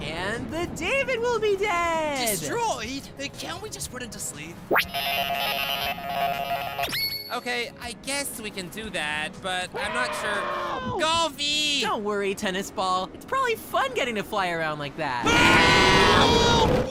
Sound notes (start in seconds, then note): 9.7 distant screaming for help; 15.2 screaming for help